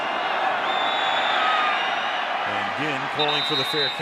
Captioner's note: cheering